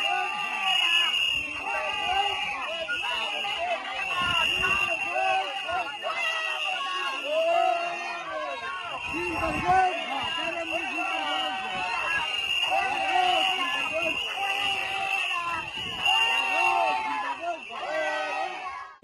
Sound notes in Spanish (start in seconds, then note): 3.0 Gritos, insultos y pitidos contra el alcalde del PP de Chercos